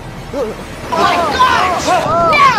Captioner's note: lightning strikes